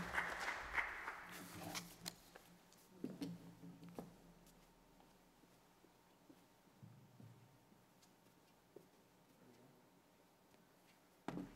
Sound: applause

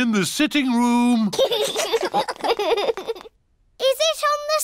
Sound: laughter

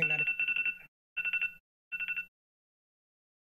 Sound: phone rings

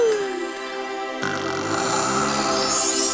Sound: snoring

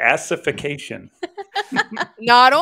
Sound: laughs

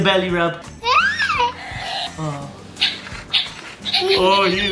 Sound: giggling; balloon sounds

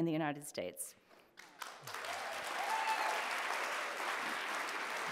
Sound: audience applauding

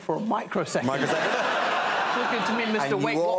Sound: crowd laughs

